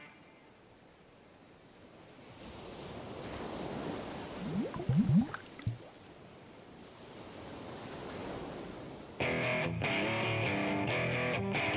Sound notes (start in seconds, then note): 1.5 waves crashing; 9.3 rock music